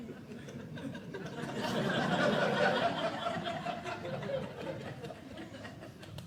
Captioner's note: audience laughing